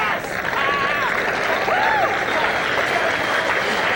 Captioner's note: crowd applauds